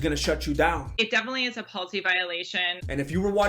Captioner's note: i'm from the valley noises